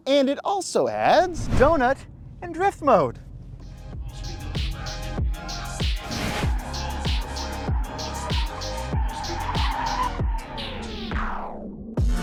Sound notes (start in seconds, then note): 4.0 upbeat music; 7.5 tires squealing